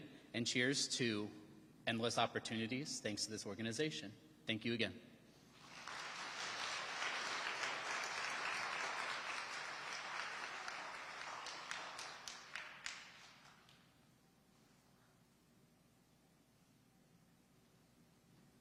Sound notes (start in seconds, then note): 5.5 audience applauding